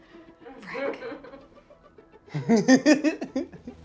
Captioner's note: laughter